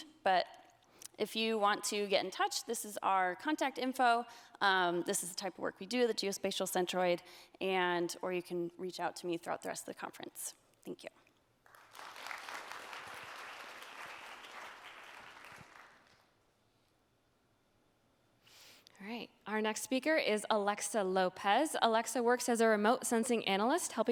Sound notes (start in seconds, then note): 11.6 applause